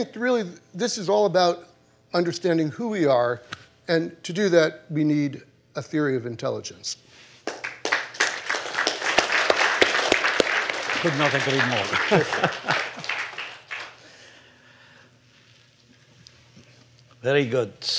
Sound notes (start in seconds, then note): 7.4 applause